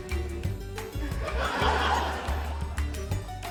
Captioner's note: laughter